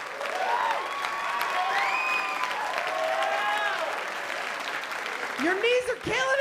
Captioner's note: cheering and applause